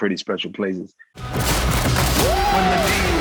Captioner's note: dramatic music; guns firing